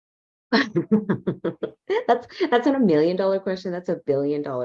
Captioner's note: laughs